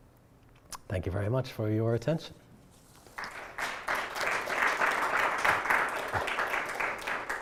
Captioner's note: audience applauds